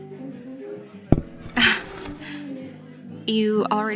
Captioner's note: plate sliding & cup placed on bar; laughs